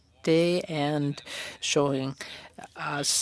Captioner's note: speaking French